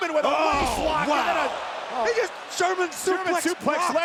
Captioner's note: crowd groaning; overlapping chatter